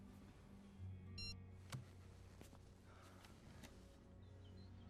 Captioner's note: phone beeping